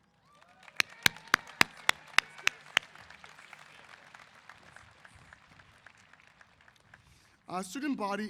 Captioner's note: applause & Cheers